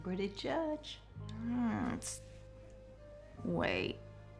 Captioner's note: groans